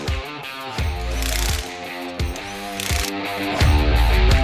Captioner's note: drilling